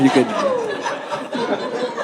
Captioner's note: audience laughing